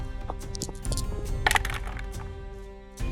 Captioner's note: dice rattling